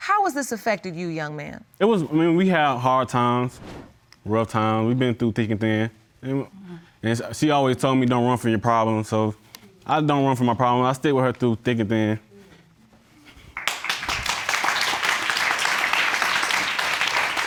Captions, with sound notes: How has this affected you, young man? It was... I mean we had hard times. Rough time, we've been through thick and thin. And she always told me don't run from your problems, so... I don't run from my problem. I'll stick with her through thick and thin. (APPLAUSE)